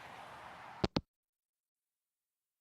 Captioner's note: hangup